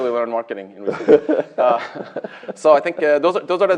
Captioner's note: laughter